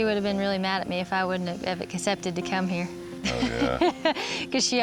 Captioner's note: laughs